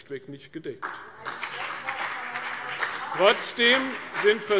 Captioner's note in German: Beifall CDU und BÜNDNIS 90/DIE GRÜNEN